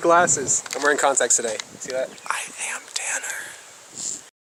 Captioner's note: whispers